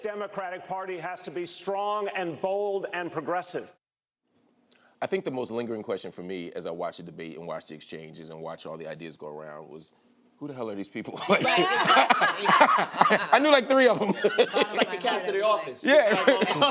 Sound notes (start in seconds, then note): 11.1 laughter; 14.8 laughs